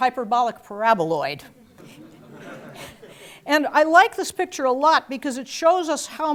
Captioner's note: laugh